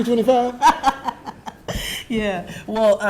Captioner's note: laughing